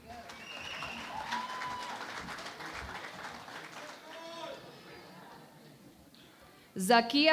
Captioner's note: cheering and Applause